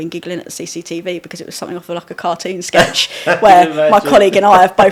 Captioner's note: laughing